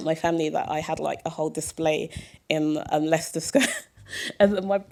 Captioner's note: chuckle